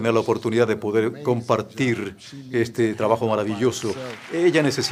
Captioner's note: applause